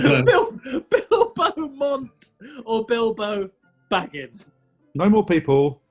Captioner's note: laughing